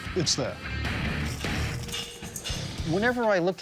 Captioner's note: electricity crackling, hammering